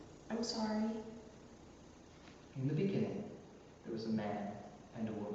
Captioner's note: none